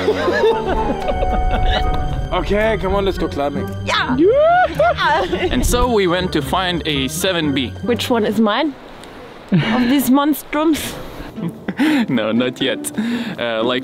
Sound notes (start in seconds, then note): 0.0 all laugh; 3.9 cheers; 11.2 chuckles